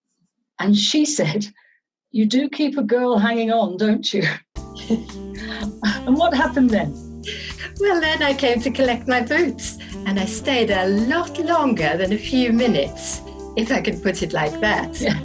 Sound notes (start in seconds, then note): 4.7 both laughing